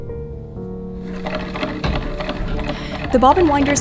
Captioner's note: wheel clacking